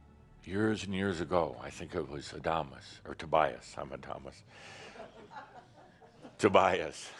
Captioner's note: a few chuckles